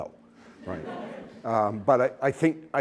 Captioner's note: laughter